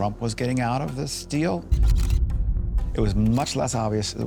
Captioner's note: camera shutters clicking